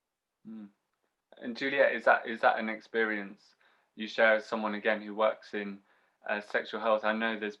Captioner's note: hum in agreement